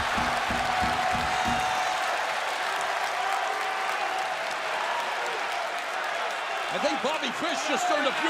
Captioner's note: crowd cheering